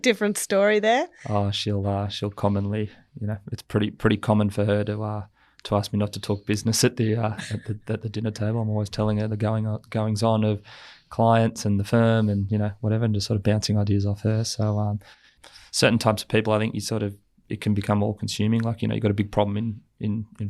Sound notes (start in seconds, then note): 6.9 laughs